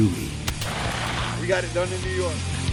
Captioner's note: gun firing; wings flapping